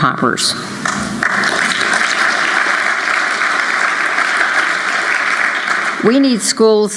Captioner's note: applause